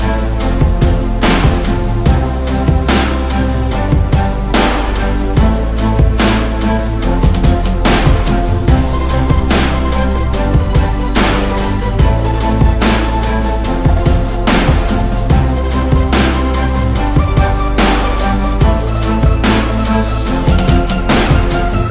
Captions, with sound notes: Ar aghaidh le chéile. Talents grow and our hearts will soar, throughout Ballymore. A brighter future together. We say, ar aghaidh le, chéile, (stamp, stamp, stamp, clap, clap) We play, ar aghaidh le, chéile, (stamp, stamp, stamp, clap, clap)